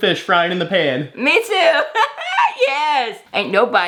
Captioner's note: laughs